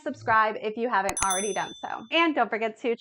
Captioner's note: bell ringing